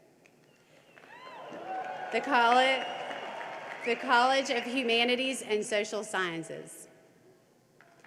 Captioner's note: cheering and applause